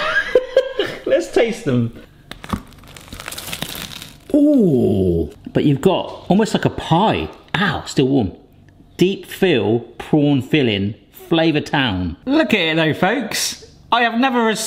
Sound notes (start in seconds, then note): 0.1 laughing; 2.1 bun crunching